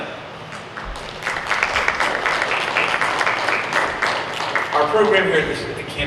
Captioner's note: audience applauds